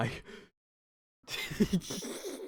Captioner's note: laughing